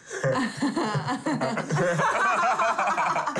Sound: laughing

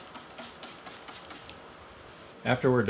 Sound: sanding and squirt bottle sounds

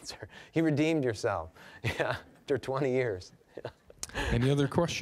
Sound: laughing

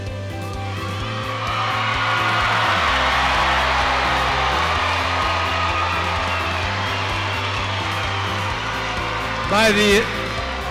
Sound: cheers

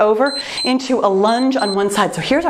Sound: timer beeps

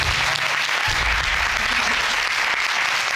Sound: audience clapping

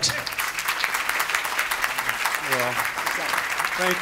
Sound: applause

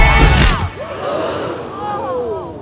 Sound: crunch; gasps

